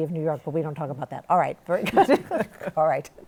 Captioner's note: both laugh